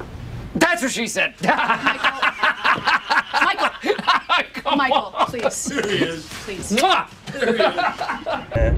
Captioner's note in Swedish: Skratt